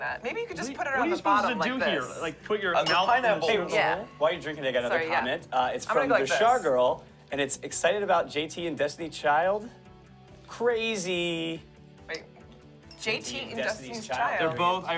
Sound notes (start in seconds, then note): 2.8 bell dings